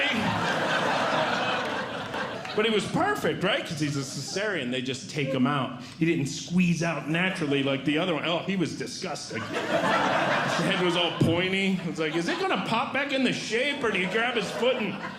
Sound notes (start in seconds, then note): 0.0 audience Laughing; 9.3 audience Laughing